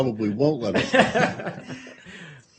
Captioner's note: laughter